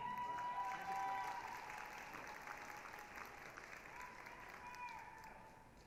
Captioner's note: applause, cheering